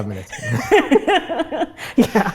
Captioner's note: both laugh